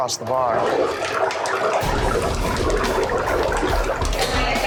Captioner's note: fryer bubbling